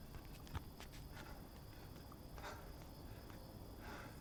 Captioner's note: breathing heavily